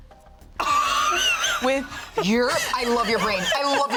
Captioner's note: laughs